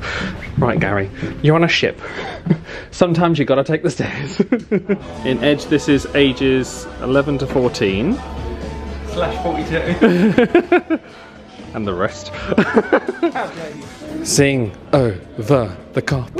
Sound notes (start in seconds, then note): 4.0 laughs; 9.9 laughs